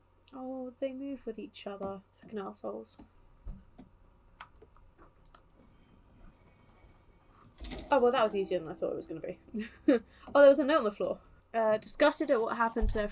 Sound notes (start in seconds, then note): 9.5 laughs